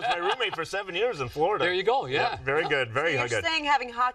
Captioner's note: laughter